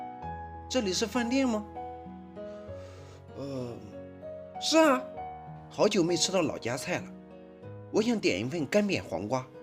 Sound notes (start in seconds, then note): 3.2 yawning